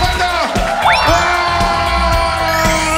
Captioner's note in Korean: 기립 함성